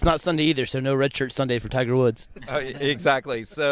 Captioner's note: laughs